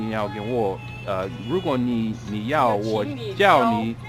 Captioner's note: mandarin